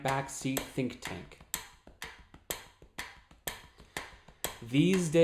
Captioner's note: tapping and ticking sound